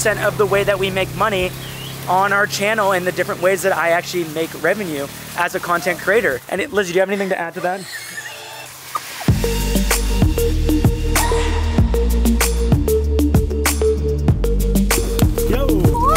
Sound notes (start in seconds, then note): 8.2 wheezes; 9.3 electronic music